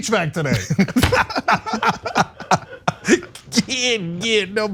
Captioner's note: laugh